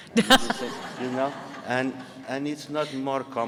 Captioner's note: audience laughing